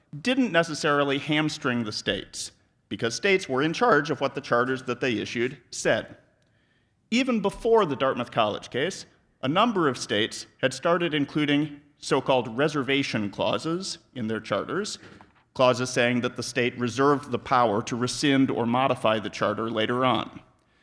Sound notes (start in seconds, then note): none